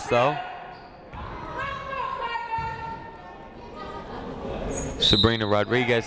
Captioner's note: people shouting in the crowd